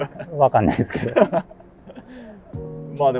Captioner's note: laughing